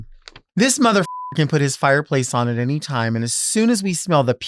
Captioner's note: beep